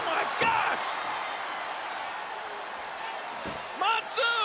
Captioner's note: crowd cheers